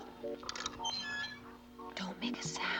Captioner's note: squeaking